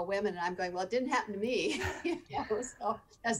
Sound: laughing

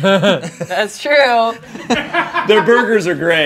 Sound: group laughing

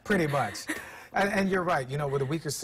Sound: laughter

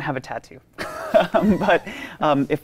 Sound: both laughing

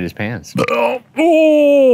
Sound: burps

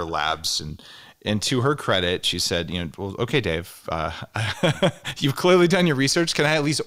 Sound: laughs

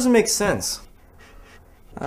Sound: breathes

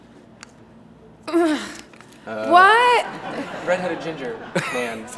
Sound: grumbles

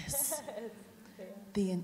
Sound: laughs

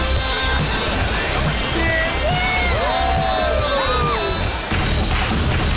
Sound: cheer, music playing

